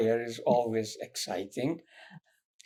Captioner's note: laughing